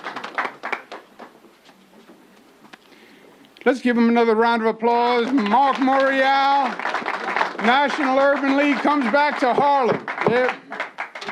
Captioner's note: applause